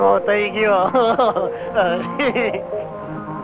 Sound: laughs

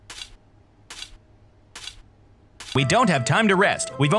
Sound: shoes clank

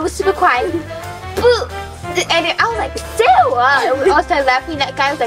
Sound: imitates flatulent

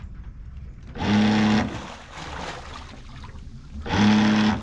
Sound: motor whirring

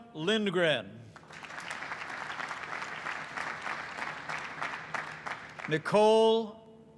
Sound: applause

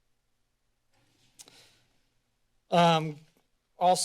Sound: silence

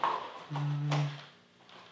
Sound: hums

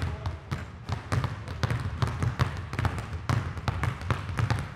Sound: balls continue thudding

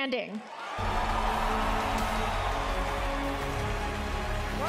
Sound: crowd cheering

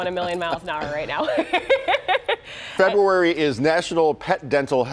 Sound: laughter

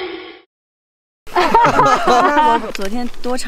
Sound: hahaha

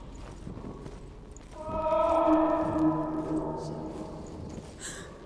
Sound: loud muffled scream

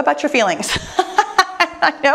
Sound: laughing

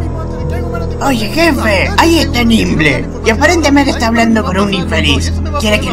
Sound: shouting; still shouting

